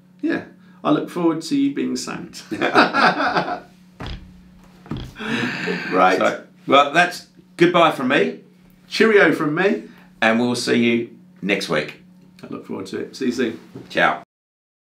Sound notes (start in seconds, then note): 2.4 both men laughing